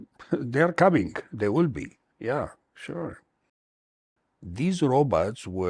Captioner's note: chuckles